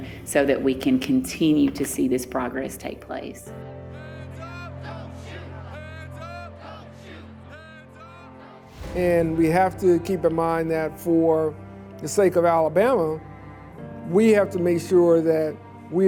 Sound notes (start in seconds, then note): 3.6 crowds chanting